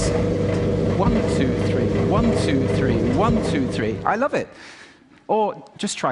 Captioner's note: sound of dryer stops